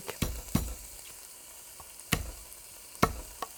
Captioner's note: hand thudding